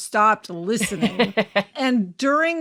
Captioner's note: laughing